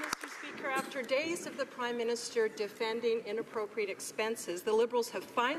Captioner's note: some Applause